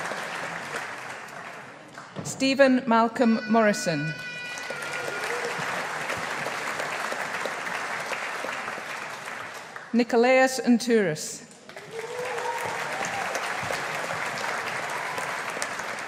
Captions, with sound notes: Steven Malcolm Morrison. (AUDIENCE APPLAUDING) Nikolaos Ntouros. (AUDIENCE APPLAUDING)